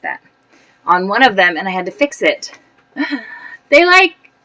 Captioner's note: gasp